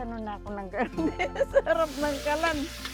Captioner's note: laughs